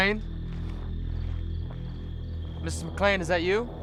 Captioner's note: footsteps